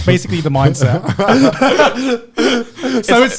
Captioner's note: laughing